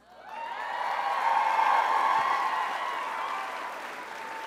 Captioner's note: crowd cheering